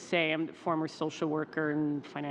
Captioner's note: speaking french